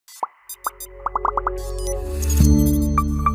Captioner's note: electronics beeping; ethereal music